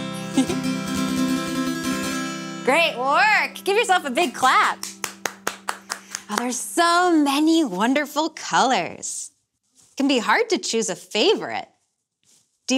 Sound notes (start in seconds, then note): 4.4 hands clapping